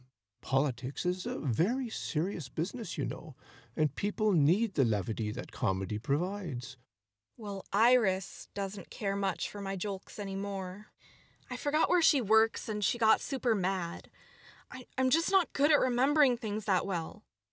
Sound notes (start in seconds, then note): none